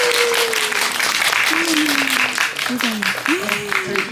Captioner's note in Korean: 박수